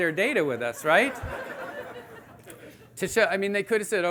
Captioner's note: audience laughing